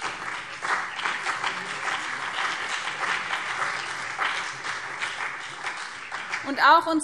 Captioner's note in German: Beifall BÜNDNIS 90/DIE GRÜNEN und CDU